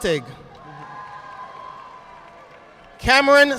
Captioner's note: audience applauding